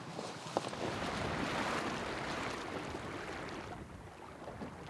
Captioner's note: water lapping